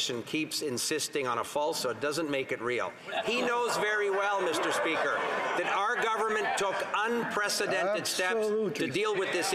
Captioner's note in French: voix de l'interprète